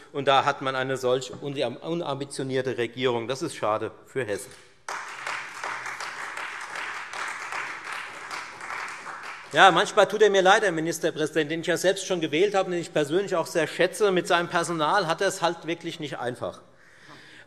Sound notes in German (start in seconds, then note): 4.8 Beifall Freie Demokraten und vereinzelt SPD